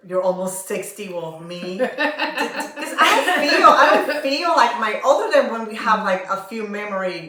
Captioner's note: laughter